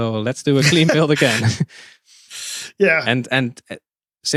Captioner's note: both chuckle